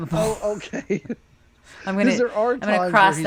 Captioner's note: laughs